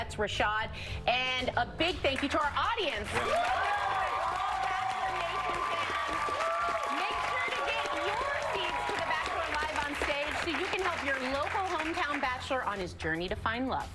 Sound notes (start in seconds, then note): 7.6 cheers and applause